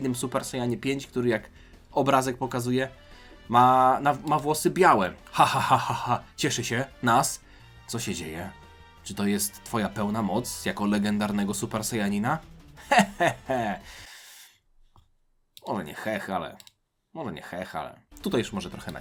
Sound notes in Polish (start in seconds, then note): 12.8 śmiech